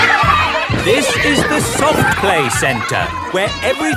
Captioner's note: loudly over shouting